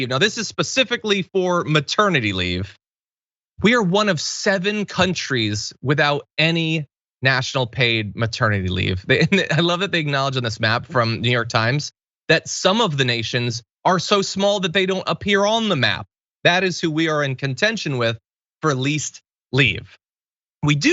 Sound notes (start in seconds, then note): 9.1 laugh